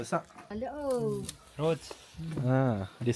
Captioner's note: speaking Nepali